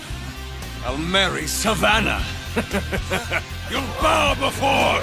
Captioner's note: chuckling